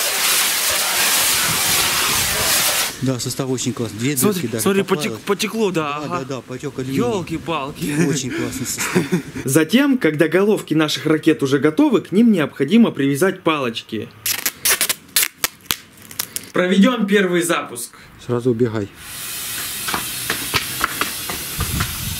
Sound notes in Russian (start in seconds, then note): 0.0 шипение; 14.2 наматывание скотча; 18.9 шипение; 19.6 шаги